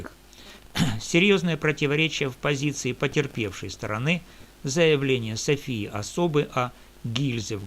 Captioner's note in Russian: откашливается